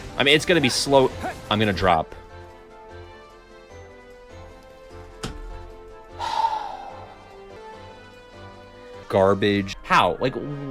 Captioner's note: sigh